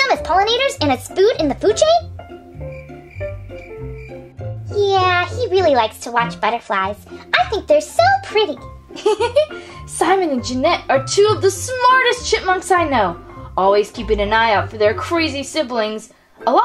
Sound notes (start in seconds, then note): 2.0 crickets chirping; 8.9 chuckles